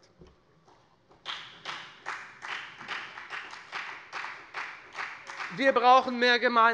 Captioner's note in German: Beifall bei der FDP